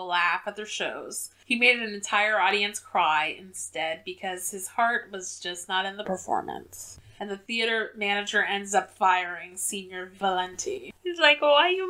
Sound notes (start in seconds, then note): none